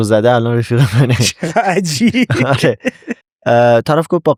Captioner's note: laughs